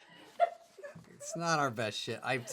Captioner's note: laughing